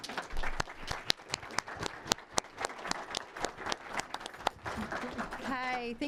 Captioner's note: applause